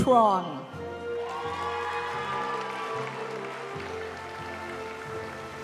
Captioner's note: audience cheering and applauding; graduation music